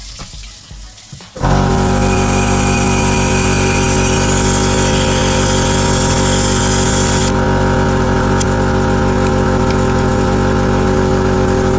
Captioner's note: compressor sound